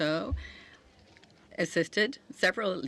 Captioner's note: speaking French